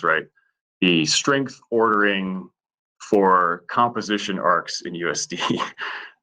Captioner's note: laughs